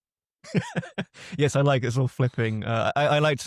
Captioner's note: laughs